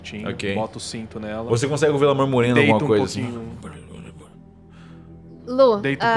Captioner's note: quiet muttering